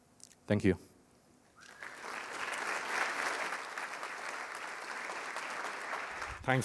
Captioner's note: applause